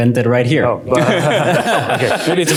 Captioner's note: laughter